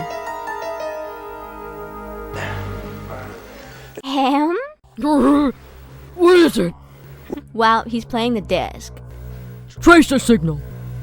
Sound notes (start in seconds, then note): 3.0 clears throat in a goon-like way